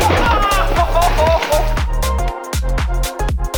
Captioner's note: man screams; techno music